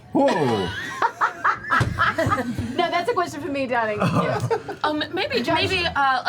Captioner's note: laughs